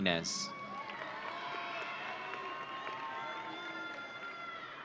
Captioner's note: audience cheering